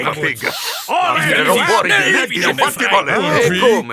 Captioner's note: sniffs